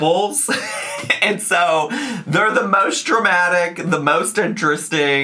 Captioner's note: laughs